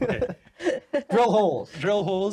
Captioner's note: laughing